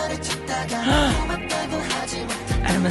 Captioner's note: gasp